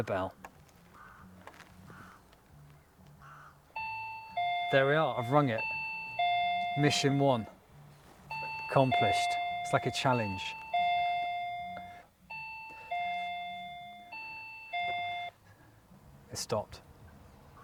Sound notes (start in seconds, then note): 11.6 continuous ringing